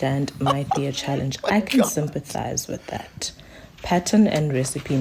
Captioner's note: laughing